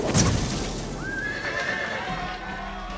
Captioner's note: cheers and applause; neighing